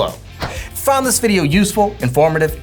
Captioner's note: screen whooshing